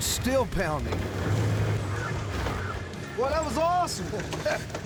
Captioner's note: motor comes to a stop